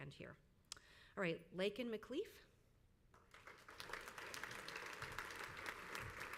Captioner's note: crowd applauds